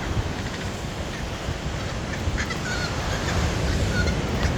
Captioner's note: bird cry